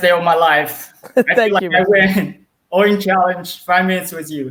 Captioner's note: chuckles